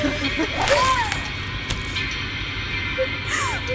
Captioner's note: jaws chomp; tongue plops; woman gasps